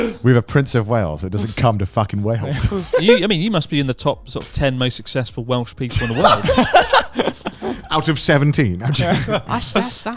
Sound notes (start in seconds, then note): 5.9 laughing loudly